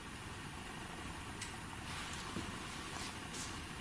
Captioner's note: soft clicking